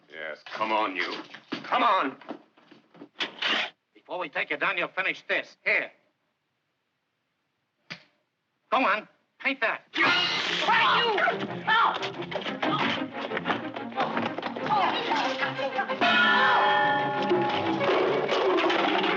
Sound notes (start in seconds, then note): 11.9 upbeat music; 16.0 bell dings